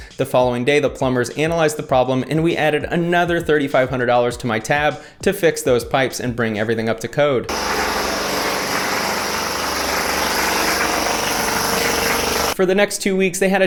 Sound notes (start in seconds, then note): 7.5 machine thrumming